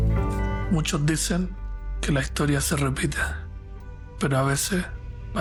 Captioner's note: narrator speaking Spanish